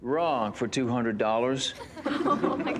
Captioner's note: laughter